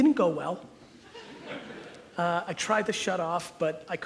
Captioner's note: audience chuckles